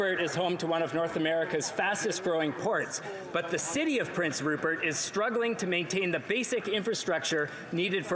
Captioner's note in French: voix de l'interprète